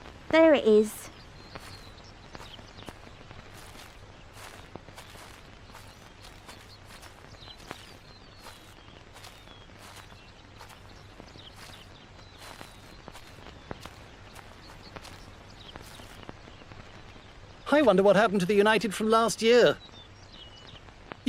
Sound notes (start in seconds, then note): 1.5 birds chirping